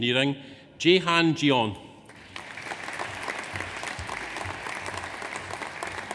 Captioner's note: audience applauds